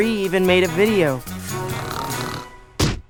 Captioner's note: snores